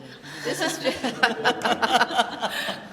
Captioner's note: laughter